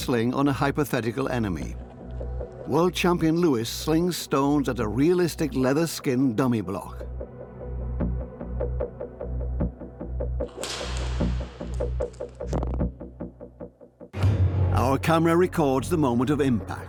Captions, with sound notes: Our next experiment tests the t of a sling on a hypothetical e. World champion Luis slings stot a realistic leather-skinned du. (sling cracks)